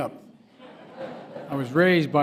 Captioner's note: laughter